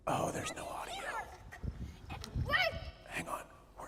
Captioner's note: whispering